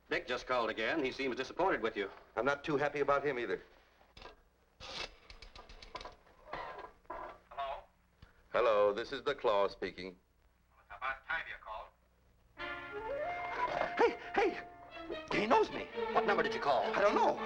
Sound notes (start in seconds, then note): 4.7 rotary dial clicking; 12.6 suspenseful music